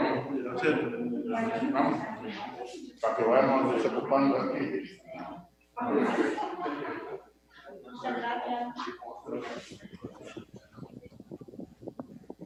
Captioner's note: speaking foreign language